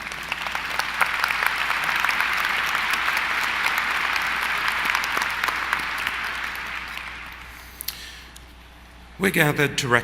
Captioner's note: applause